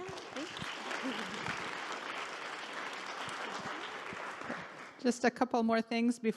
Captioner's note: audience clapping